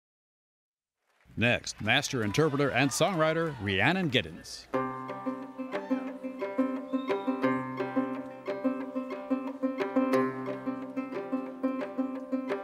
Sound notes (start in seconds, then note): 1.1 cheering and applause; 5.2 cheering; 7.7 mandolin